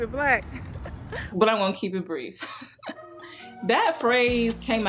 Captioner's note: chuckles